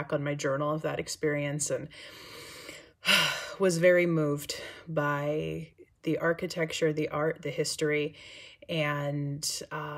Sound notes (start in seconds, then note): 2.0 exhales sharply